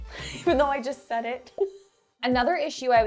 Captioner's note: laughs